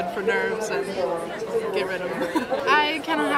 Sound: laughs

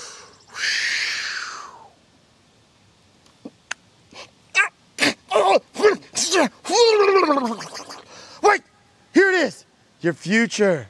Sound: smelling

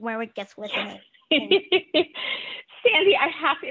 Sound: laughs

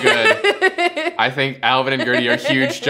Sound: laughs

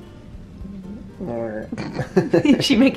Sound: croaks

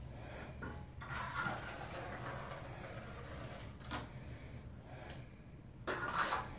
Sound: metal trowel dragging over concrete

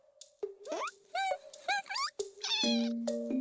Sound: squeaks quizzically

